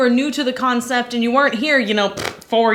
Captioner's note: blowing raspberries